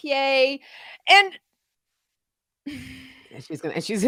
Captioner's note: sighing